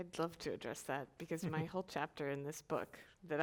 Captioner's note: panelist chuckles